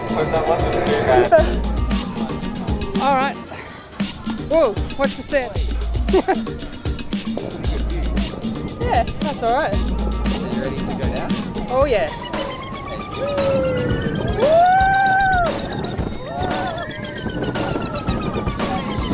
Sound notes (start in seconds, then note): 6.0 snickers